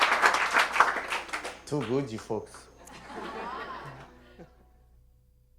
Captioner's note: speaking Hawaiian language